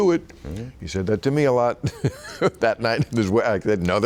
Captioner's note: laughing